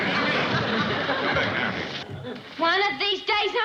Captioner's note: Jed shouting